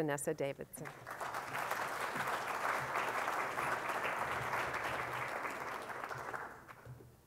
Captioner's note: audience applauds